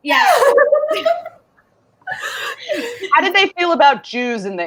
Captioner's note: laughs